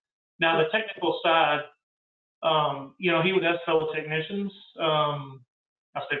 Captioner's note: murmurs